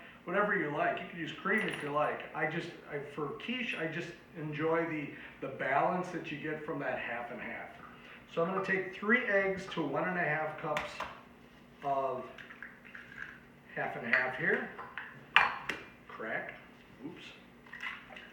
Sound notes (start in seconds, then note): 15.3 egg hits counter